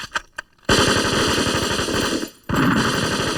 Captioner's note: gunshots